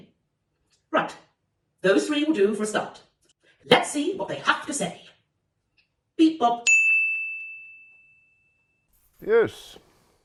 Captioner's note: ping